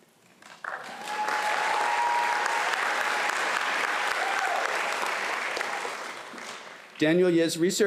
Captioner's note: applause